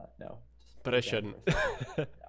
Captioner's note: laughing